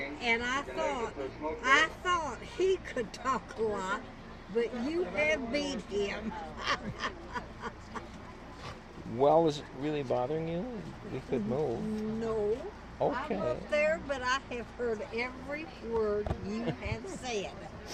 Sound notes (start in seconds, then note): 6.5 laughs